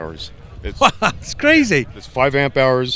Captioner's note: laughs